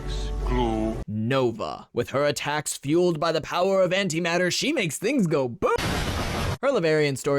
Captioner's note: explosion